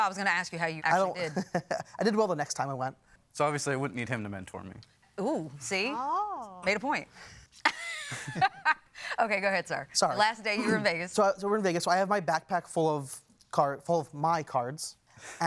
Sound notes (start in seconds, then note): 1.2 chuckles; 7.6 laughs